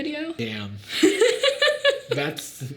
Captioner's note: Sadie laughing